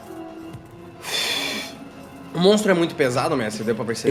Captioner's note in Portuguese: suspiro